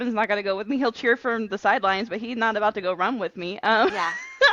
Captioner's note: laughter